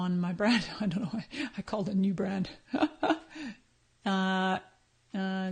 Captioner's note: laughs